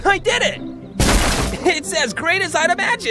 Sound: crash

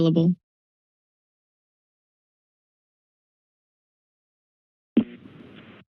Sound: silence

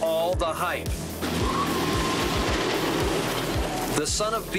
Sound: people screaming

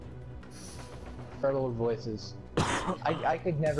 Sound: coughs

